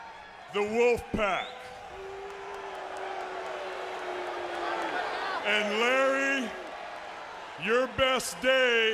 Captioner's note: applause